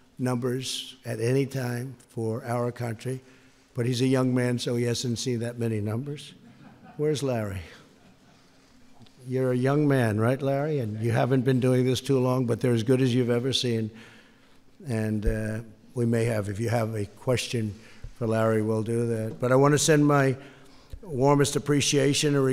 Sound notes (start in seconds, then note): 6.4 laughter